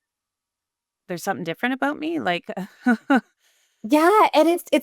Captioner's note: chuckles